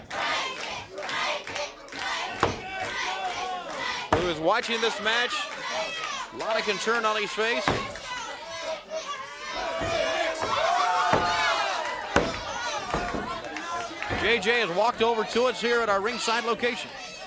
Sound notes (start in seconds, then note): 0.1 crowd chatter; 8.6 crowd cheering